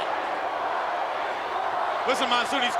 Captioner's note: crowd chatting for Hogan